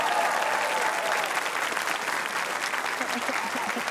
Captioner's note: cheering, applause